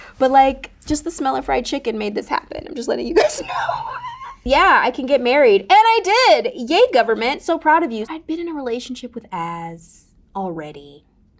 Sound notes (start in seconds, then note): 3.1 Raven-Symone laughing